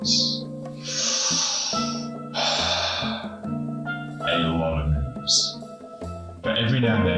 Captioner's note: sigh